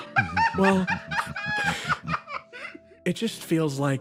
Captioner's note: laughs